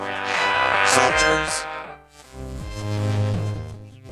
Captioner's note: men shouting